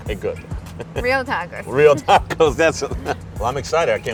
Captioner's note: laughs